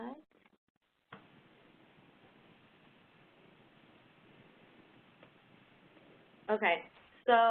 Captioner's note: 5 seconds pause